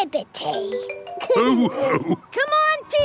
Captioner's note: all laughing